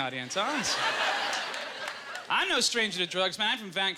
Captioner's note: laughter